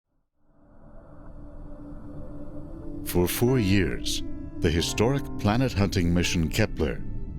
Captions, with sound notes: (bassy music) - [Voiceover] For four years, the historic planet hunting mission, Kepler,